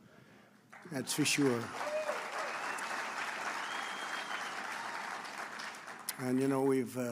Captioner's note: applause